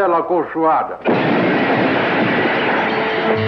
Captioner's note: explosion